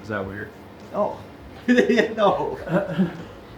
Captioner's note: laughs